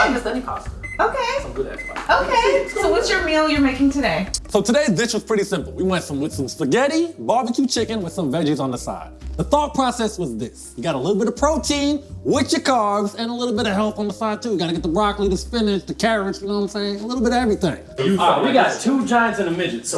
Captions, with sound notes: - Okay. - Not just any pasta. - Okay. - Some good ass pasta. - Okay. (microwave beeping) So what's your meal you're making today? - So today's dish is pretty simple. We want some little spaghetti, barbecue chicken, with some veggies on the side. The thought process was this, you got a little bit of protein, with your carbs, and a little bit of health on the side too. Gotta get the broccoli, the spinach, the carrots. You know what I'm saying? A little bit of everything. - We got two giants and a midget,